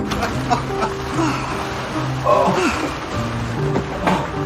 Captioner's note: husband laughing